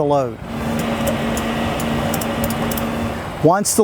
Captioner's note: ratchet clicking